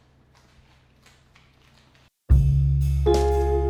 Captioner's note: sticky footsteps